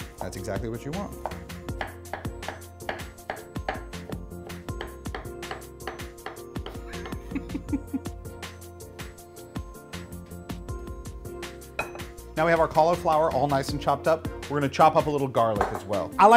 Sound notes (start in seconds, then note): 1.9 knife tapping; 6.8 laughs softly